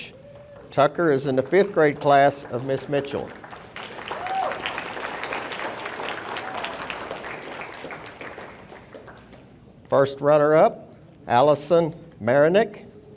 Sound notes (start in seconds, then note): 2.9 audience applauding; 3.7 audience cheering